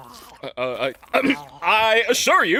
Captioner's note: clears throat